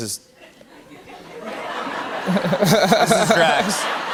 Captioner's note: laughter